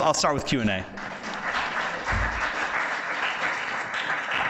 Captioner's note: audience applauds